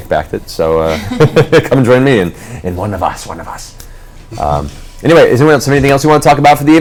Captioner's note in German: böse Stimme